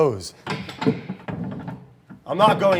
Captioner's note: latch rattling